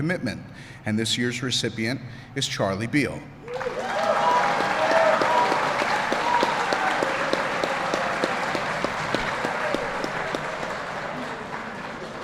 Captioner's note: applause